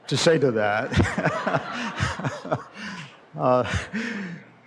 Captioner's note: laughter